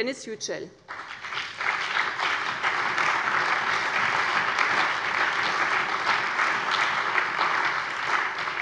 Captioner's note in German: Allgemeiner Beifall